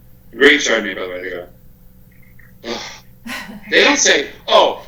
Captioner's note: sigh